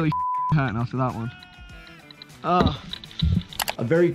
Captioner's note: beep; groans